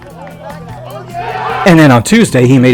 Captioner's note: crowd cheering